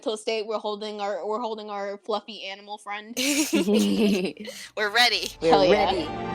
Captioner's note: giggles